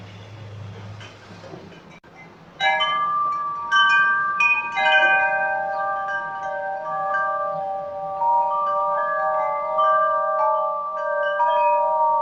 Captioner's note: wind chimes clanging